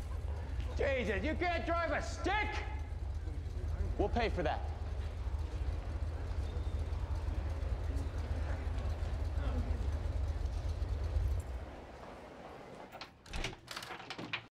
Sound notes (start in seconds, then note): 9.5 engine Stops